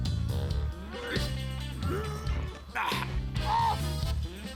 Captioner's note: grunting